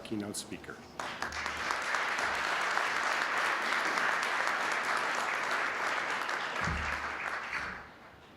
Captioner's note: applause